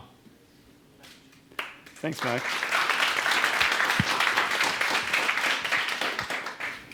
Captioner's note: audience applause